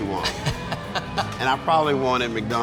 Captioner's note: laughing